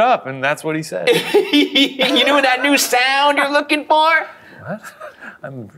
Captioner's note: laughs